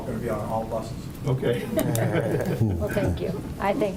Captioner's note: laughing